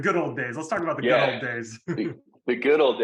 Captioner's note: laughing